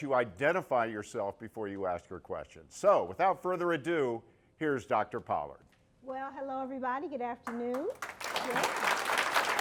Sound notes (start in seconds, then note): 7.4 applause